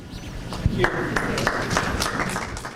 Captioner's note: applause